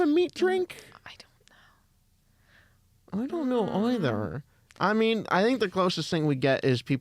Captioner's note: whispers